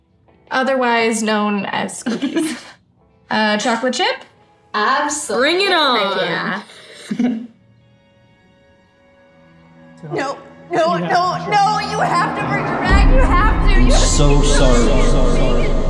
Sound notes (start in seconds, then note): 6.7 laughs; 10.0 MRS. GRAHAM voiceover, echoing